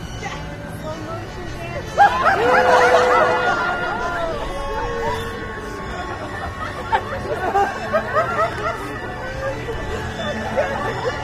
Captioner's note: laughter